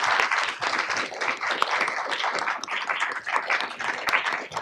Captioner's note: audience clapping